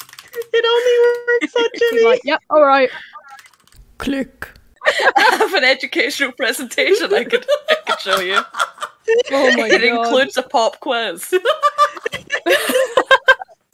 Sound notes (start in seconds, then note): 3.9 click; 4.8 laughing; 7.1 laughing; 11.4 everyone laughing